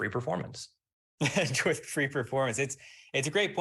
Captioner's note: chuckles